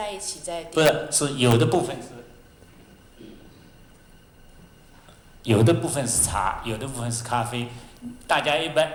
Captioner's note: Mandarin; Mandarin